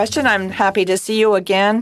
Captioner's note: speaking in French